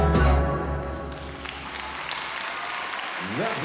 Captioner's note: applause